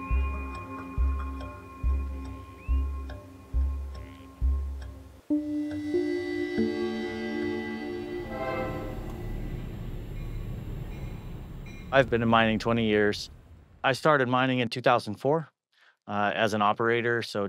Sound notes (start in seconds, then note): 0.1 gentle music continues; 8.8 train bell rings; 8.8 train whistle shrieks